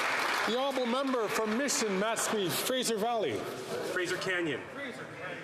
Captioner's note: some Applause